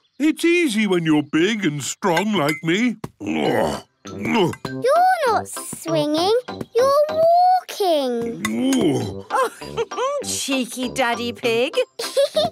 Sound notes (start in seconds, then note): 3.2 grunts; 8.8 laughs; 11.8 laughs